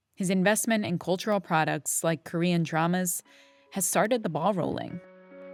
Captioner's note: none